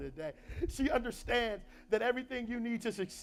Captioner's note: laughs